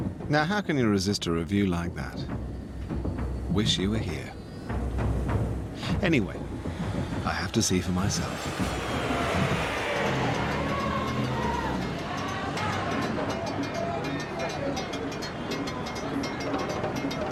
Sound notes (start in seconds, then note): 8.8 plane engine; 10.7 children singing; 10.7 drum beats